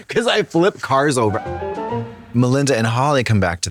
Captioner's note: whimsical chime